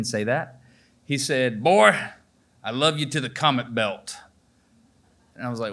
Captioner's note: emulating a granddads voice